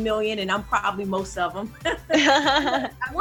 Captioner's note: laughing